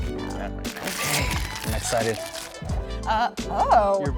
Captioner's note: unwrapping paper